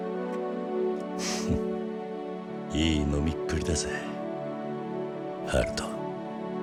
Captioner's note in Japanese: 鼻息